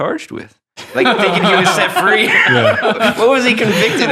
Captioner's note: laughing